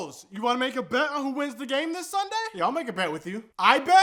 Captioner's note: none